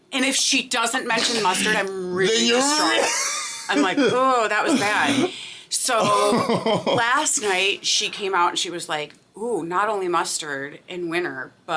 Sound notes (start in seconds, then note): 6.0 laughing